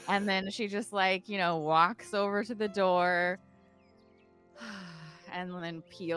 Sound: sighing

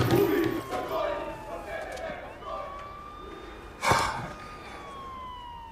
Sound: yelling in distant: kill,slaughter,that faggots don't exist

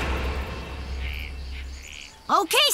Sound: birds twittering

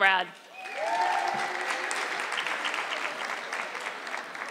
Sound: audience clapping

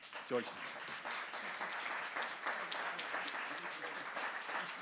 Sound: audience applauding

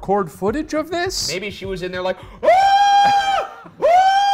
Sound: screaming

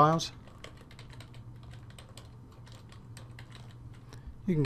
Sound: typing

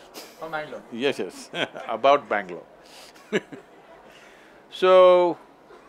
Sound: laughs

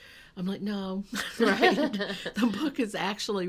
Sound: laughing

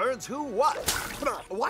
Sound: splash!

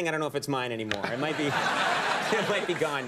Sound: crowd laughs

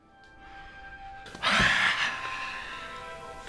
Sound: sighs

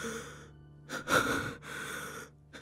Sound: sobbing

